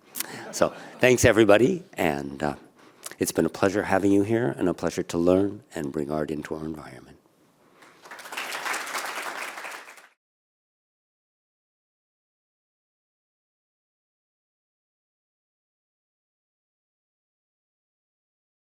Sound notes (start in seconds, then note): 7.8 applause